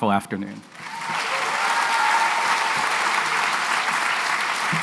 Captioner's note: applause